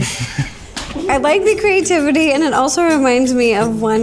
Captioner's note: laughs